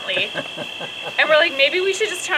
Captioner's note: dad laughs